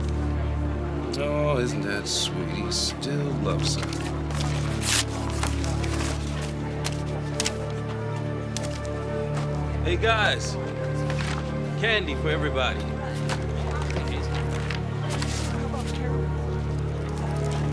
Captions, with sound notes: Aw, isn't that sweet? He still loves her. (paper rustles) Hey, guys! Candy for everybody! - How 'bout a caramel?